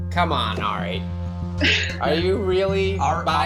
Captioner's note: laughing